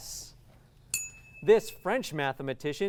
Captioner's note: ding